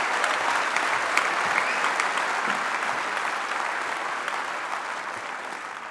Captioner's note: applause